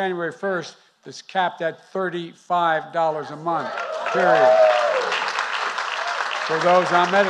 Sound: applause

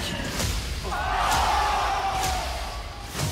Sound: cheering

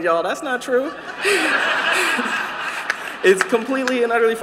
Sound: laughter

